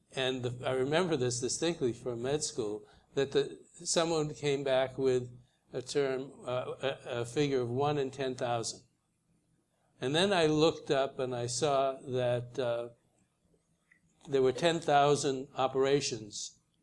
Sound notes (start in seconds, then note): none